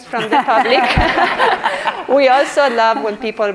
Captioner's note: audience laughs